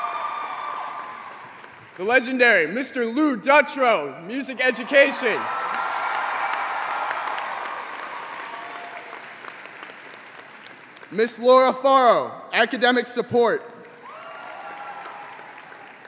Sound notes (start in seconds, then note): 5.0 applause